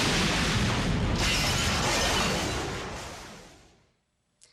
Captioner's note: glass shatters